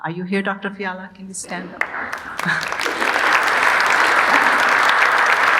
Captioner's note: audience applauding